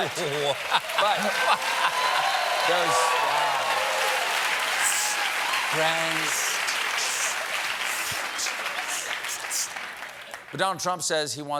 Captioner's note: laughter; cheers and applause